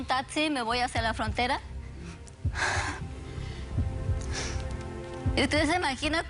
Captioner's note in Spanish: Sollozos